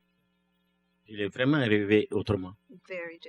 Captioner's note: speaking french